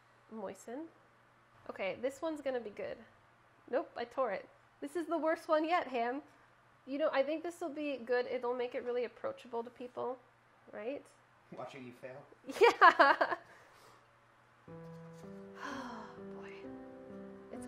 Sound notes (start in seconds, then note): 13.5 laughing; 14.7 sad music